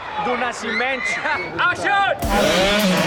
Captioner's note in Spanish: hombre en inglés